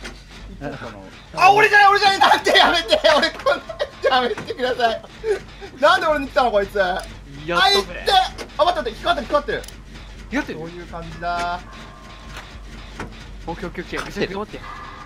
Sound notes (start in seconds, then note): 4.6 begging